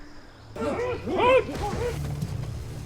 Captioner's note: growls